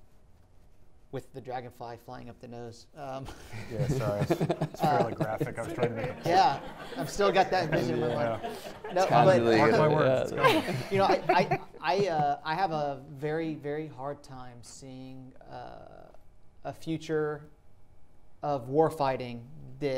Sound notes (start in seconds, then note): 3.5 audience laughing